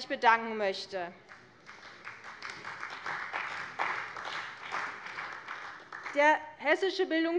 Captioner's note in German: Beifall bei der CDU und dem BÜNDNIS 90/DIE GRÜNEN